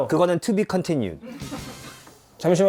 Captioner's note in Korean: 두둥